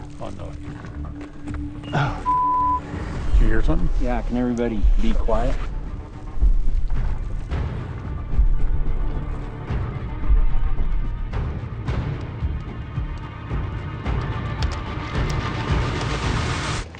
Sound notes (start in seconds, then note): 1.7 beeps; 9.5 soft intense music